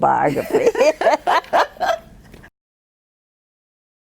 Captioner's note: both laughing